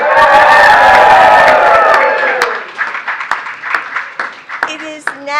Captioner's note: applause